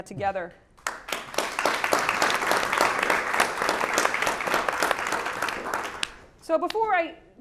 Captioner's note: applause